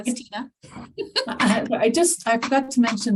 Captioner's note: laughing